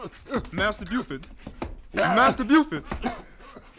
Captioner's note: exclaims, chokes